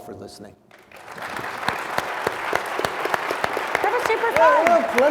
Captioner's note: audience applauds